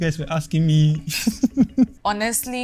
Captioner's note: laughs